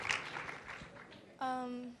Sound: applause

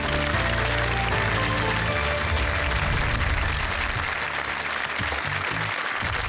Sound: applause

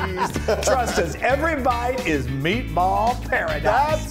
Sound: laugh

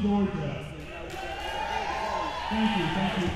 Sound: crowd cheering

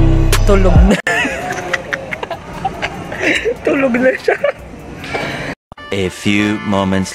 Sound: laugh

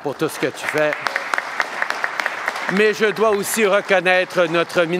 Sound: applause

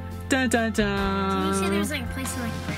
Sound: laughs

